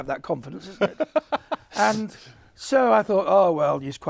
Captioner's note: chuckles